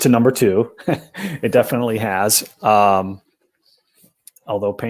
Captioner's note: laughter